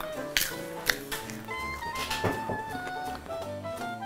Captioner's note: popcorn crunching